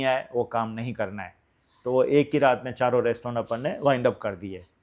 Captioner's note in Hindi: नाक से की जाने वाली आवाज़